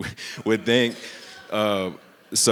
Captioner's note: audience speaking indistinctly